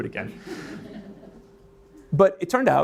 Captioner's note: audience laughs